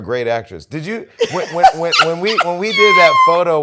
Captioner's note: laughter